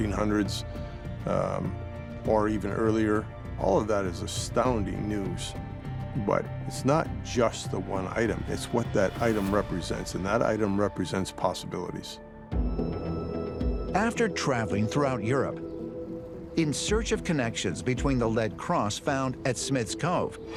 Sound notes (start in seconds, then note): none